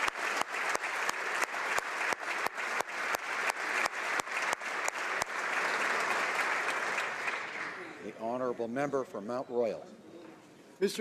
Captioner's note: applause